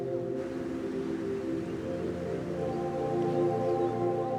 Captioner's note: distant rush of a river